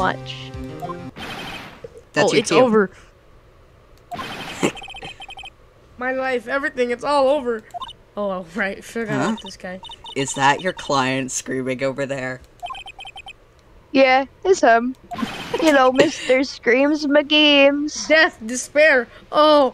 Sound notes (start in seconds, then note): 4.5 commits tiny laugh; 15.5 tiny laughing,